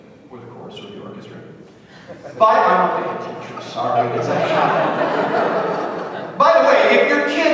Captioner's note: laughter